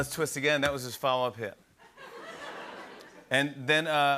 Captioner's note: laughter